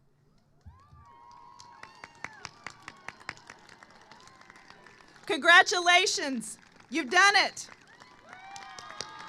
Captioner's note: applause